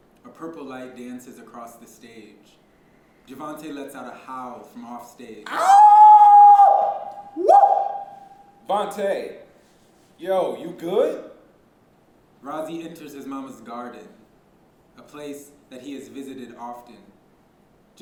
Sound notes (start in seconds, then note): 5.4 loud howl